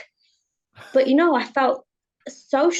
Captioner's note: chuckles